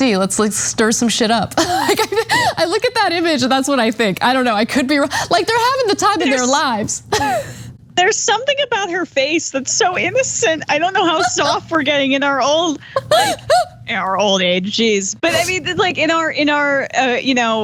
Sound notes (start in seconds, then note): 1.6 laugh; 12.9 laugh